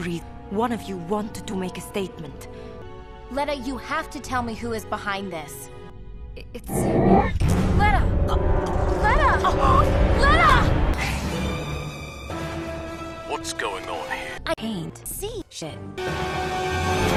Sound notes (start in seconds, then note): 6.7 Letta choking